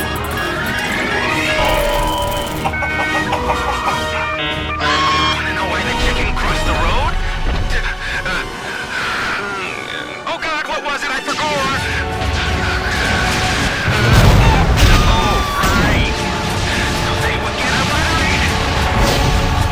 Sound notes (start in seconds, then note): 2.6 confused bawks; 12.2 nervous panting